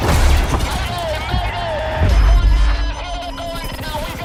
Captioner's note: calls for help over radio